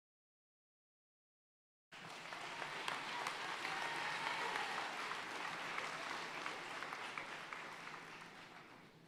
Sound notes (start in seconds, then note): 1.9 audience applauding